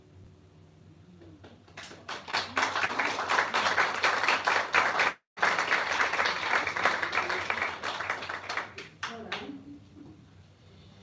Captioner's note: applause